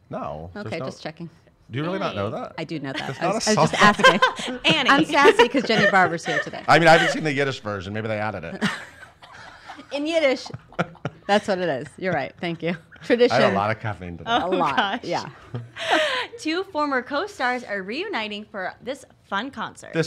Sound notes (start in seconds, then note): 3.0 laughs; 8.4 lightly laughing; 14.0 mutters